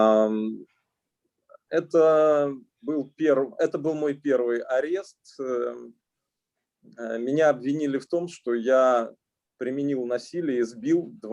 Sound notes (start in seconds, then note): 2.1 speaking Russian language